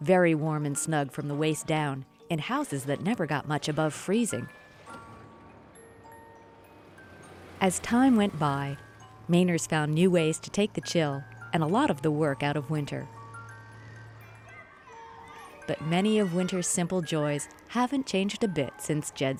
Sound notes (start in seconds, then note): 13.8 engine rumbles; 14.0 kids shout